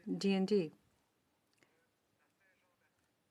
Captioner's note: speaking French